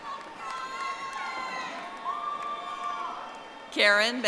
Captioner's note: audience applauding